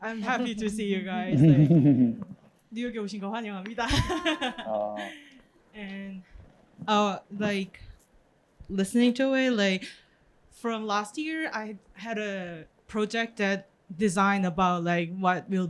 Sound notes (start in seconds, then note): 3.0 speaking korean